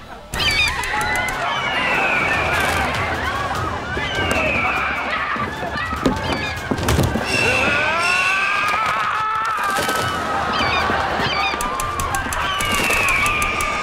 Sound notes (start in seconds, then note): 0.1 squawking, screaming; 7.1 screaming; 10.4 squawking